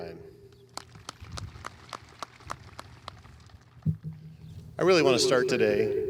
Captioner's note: audience applauding